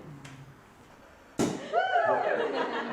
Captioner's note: cork popping; group laughing